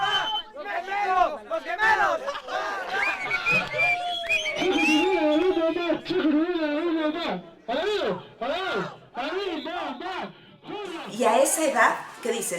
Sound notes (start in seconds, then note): 1.8 crowd cheering